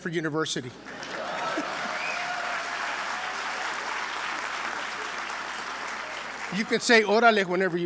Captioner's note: applause